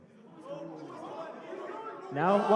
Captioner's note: excited shouting